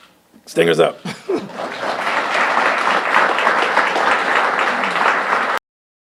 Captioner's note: applause